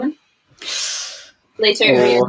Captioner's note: winces